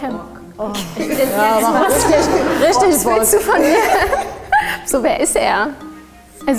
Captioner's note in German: lachen